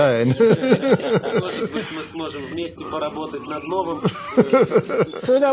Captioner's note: Russian spoken audio